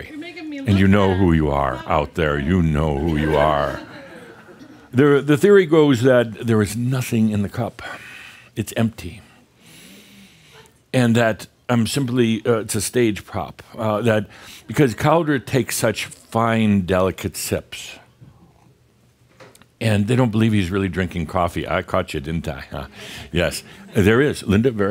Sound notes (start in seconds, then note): 3.0 more chuckles